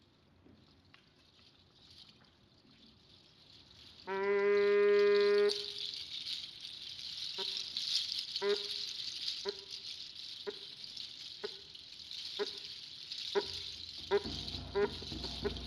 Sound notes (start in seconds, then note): 2.9 horn and rattle